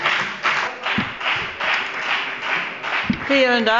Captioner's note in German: Beifall bei der FDP